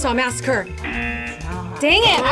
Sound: bell dings; klaxon sounds

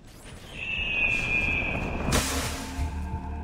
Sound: eagle screech

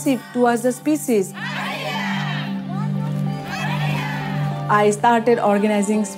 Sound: women chanting

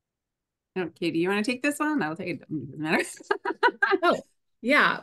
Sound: laughs

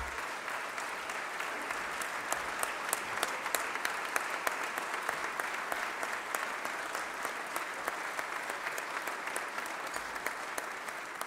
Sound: applause

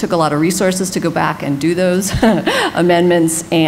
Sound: laughs

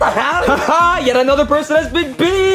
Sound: Mario laughs

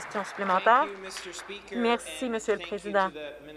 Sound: some Applause

